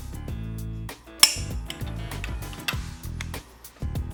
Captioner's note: metal clanking